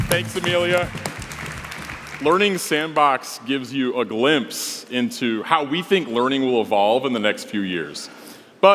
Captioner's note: applause